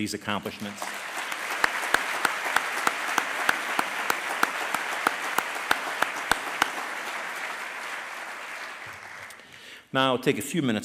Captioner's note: applause